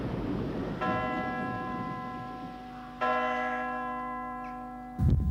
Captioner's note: church bell rings